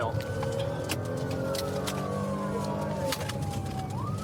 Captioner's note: siren blaring